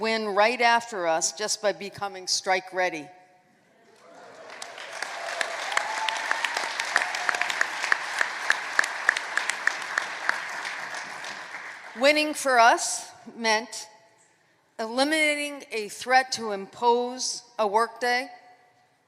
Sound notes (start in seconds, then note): 0.0 applause; 10.0 applause